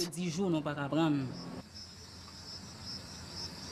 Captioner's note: insects chirping